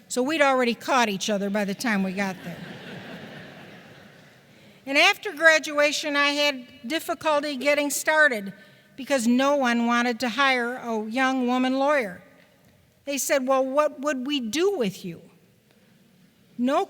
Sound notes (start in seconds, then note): 2.3 chuckles